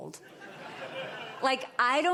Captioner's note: laughter